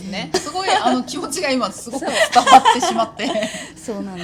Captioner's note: laughs